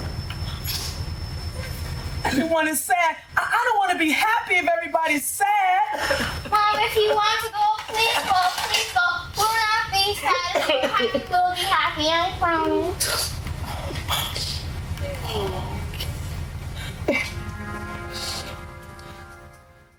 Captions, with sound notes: I don't wanna be happy if everybody's sad. Mom, if you want to go, please go. Please go pull out these pads. If you're happy, we'll be happy. (sniffing)